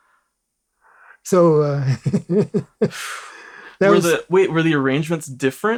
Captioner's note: laughs